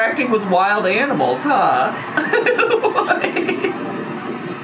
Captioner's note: laughs